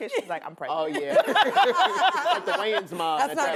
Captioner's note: laughter